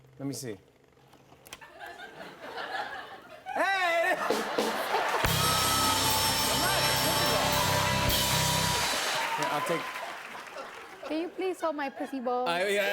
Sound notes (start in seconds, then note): 1.6 laughter